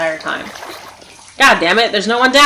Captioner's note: stepping into water